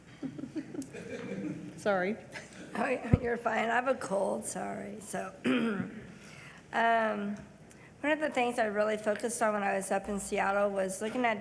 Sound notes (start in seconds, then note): 0.1 people laugh lightly